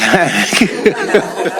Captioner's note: laughter